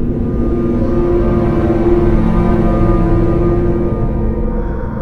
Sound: ominous hum continues

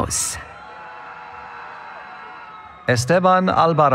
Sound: cheering

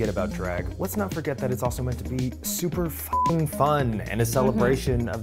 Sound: beep

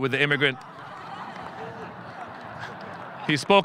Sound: audience laughing

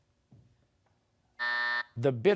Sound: buzzer

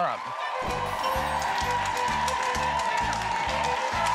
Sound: cheers and applause

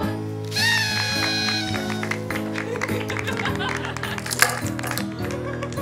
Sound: party horn, laughter, applause

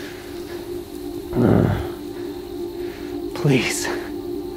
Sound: Bigfoot growls

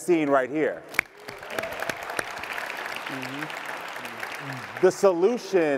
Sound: audience clapping

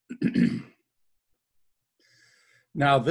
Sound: clears throat

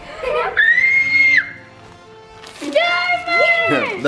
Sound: squealing

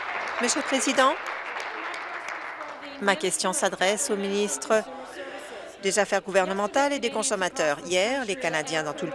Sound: applause

